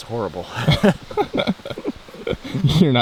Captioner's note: both laughing